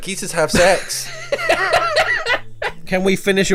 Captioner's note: laughing